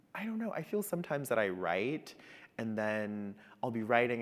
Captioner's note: none